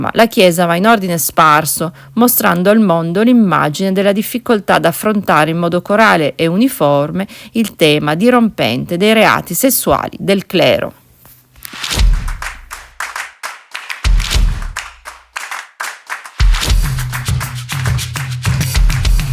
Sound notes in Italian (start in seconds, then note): 12.2 Applauso